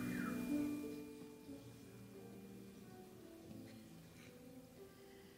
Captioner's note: audience member whistles